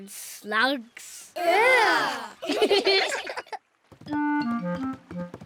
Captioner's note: giggle